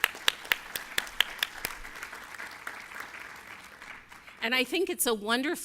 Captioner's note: applause